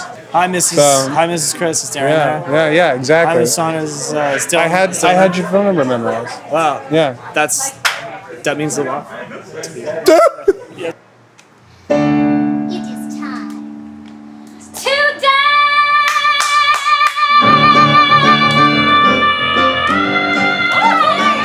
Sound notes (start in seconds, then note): 10.0 fake sob